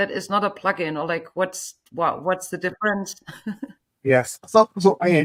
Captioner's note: chuckles